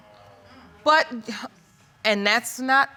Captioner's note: sighs